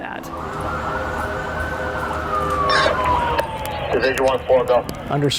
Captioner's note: sirens blaring